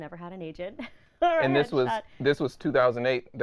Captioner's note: laughing